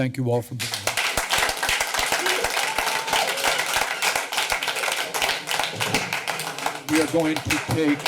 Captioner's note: applause